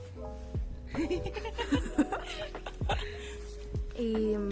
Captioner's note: laughter